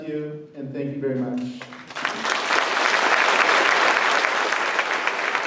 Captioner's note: applause